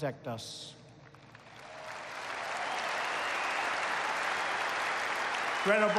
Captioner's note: applause